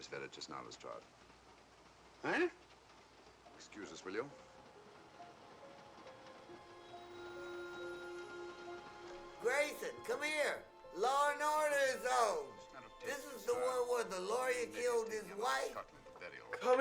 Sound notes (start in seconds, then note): 5.9 solemn music; 5.9 train chugging